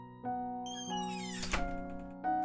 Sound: door squeaks closed

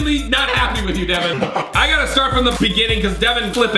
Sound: laughs evilly

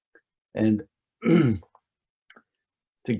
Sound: clears throat

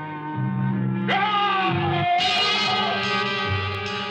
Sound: Eegah screams

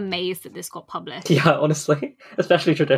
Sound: laughing

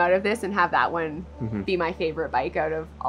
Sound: hums agreeingly

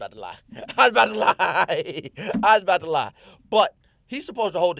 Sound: laughing

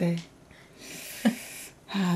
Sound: inhale

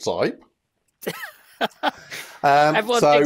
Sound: laughs

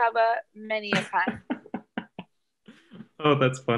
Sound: laughing

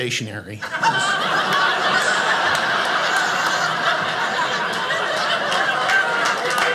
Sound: audience laughing; audience applauding

